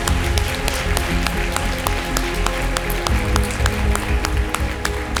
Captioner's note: applause